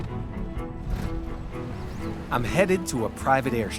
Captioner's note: car engine rumbling